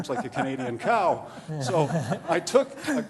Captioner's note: laughter